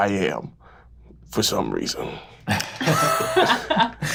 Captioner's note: laughing